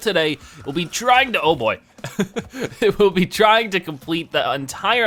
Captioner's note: laughing